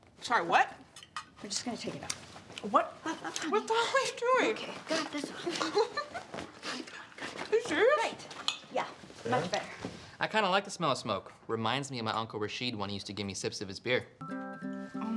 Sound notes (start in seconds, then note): 5.3 laughs